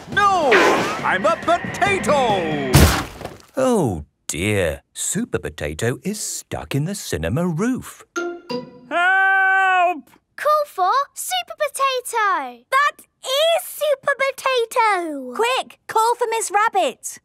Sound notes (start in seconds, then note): 0.4 crashes